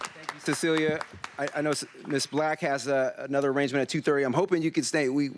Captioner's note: applause